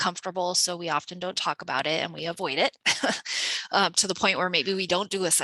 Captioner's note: chuckles